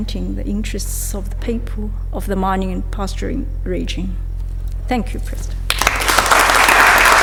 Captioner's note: applause